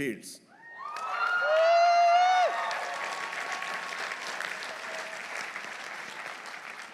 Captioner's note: audience cheering; audience applauding